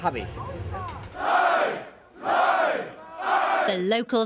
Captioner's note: crowd chanting